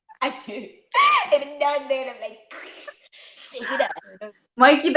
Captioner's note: laughs; foreign language